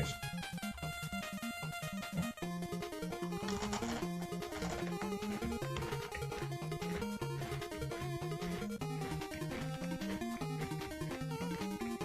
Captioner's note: crawnch